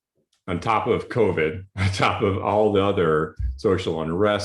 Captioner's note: laughs